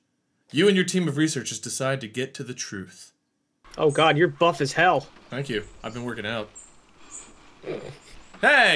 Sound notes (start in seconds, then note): 7.6 snorts